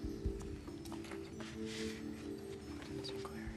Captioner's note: whisper